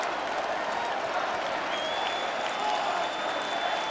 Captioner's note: crowd cheering